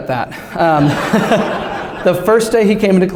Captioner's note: laughter